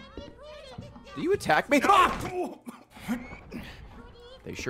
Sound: screams

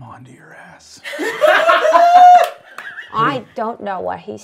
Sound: all laughing

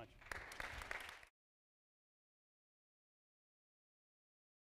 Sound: audience applauding

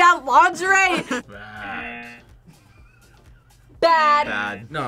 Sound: buzzer rings

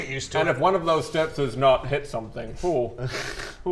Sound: phew

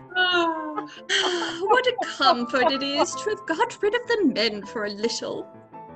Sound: laughter

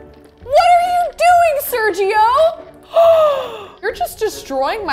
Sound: gasps

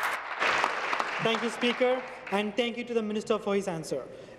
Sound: applause

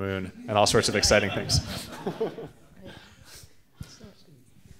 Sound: audience laughing

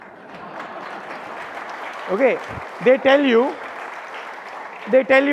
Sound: audience applauding

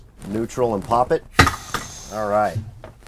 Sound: pops

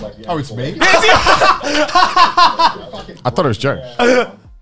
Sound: laugh

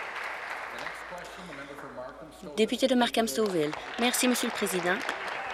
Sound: applause

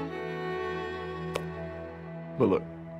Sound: gentle string music; hands clap

